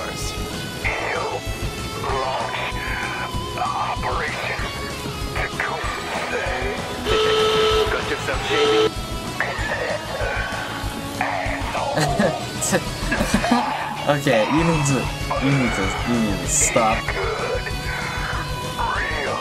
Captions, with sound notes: [chuckles] Okay. You need to stop.